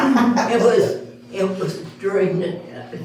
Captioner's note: all Laguhing